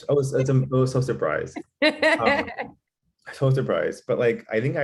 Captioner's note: giggling